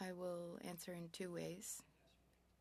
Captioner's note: speaking French